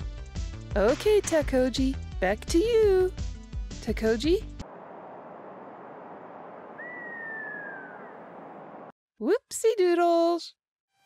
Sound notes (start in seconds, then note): 5.2 silent breeze, eagle cawing in the distance